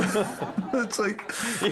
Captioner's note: laughing